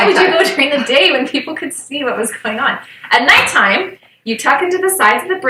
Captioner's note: snicker